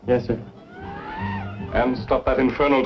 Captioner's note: mexicans cheering outside